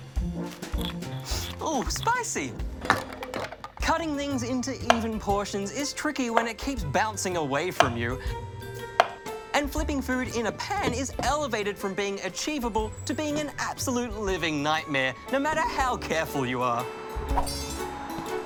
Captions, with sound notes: (SNIFFS) Ooh, spicy! Cutting things into even portions is tricky when it keeps bouncing away from you and flipping food in a pan is elevated from being achievable to being an absolute living nightmare, no matter how careful you are.